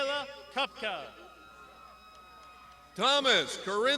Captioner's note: crowd shouting